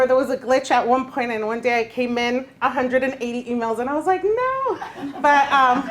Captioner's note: laughter